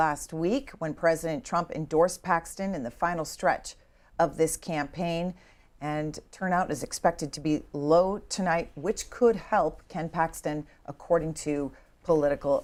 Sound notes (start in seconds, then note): none